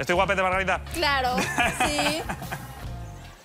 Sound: laughs

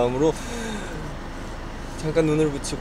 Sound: deep breath

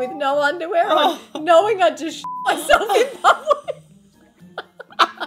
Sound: beep; women laughing

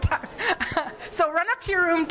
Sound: laughing

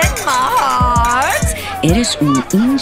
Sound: glasses clinking

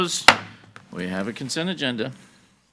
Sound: gavel bangs

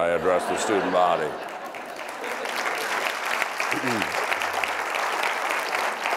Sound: crowd applauding

